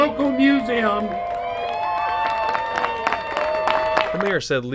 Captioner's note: applause